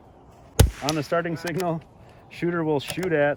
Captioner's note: rifle fires